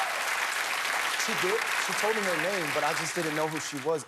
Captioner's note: cheers and applause